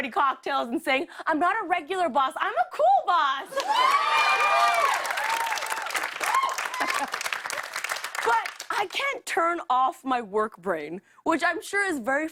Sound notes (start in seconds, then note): 3.5 cheers and applause